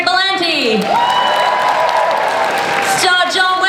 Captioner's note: audience cheers